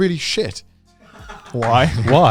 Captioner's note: man laughing